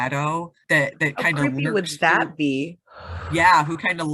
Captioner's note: exhales